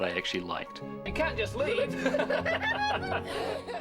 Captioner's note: laughing